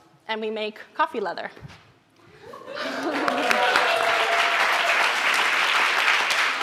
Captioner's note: applause